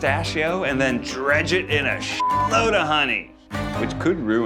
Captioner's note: beeps